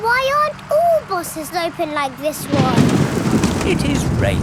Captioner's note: snorts; thunder crashing